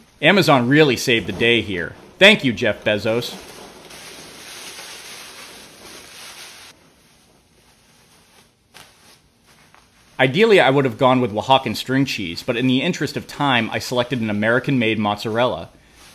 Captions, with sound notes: Amazon really saved the day here. Thank you, Jeff Bezos. (plastic rustling) Ideally I would've gone with Oaxacan string cheese, but in the interest of time I selected an American made mozzarella.